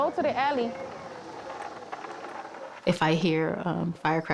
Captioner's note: wheels rumble